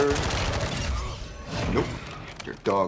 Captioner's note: guns firing on video game